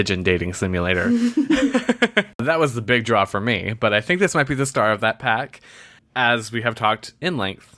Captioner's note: laughs